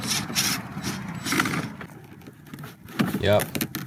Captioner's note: drill whirring